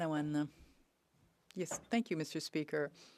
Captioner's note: speaking French